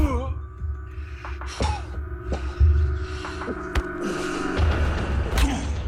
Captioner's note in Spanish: Quejido